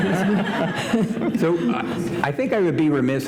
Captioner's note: laughter